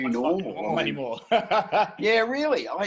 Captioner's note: laughing